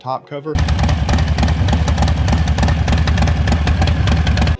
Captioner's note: bike engine roaring